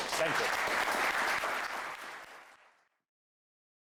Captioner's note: applause